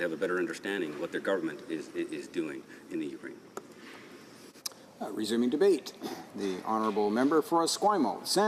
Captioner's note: none